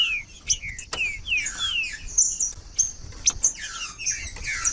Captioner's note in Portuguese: trinca ferro cantando